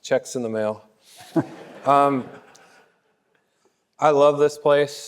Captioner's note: laughing; audience laughing